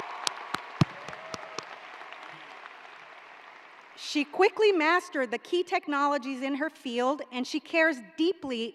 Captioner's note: applause